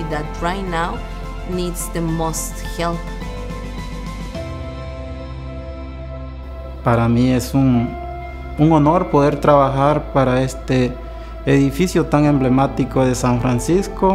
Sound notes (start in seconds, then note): 3.1 light hearted music; 6.9 man speaking in Spanish